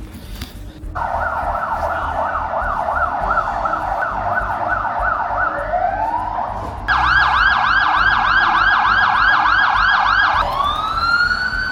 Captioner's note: emergency sirens